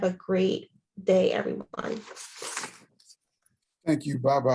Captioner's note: pages rustling